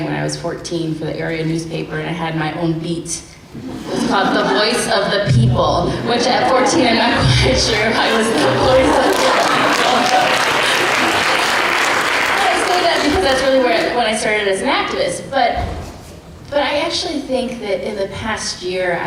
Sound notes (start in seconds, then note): 3.7 laughter; 9.6 laughter and applause